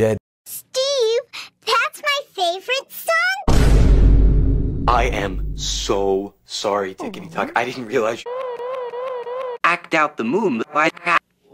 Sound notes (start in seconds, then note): 3.4 boom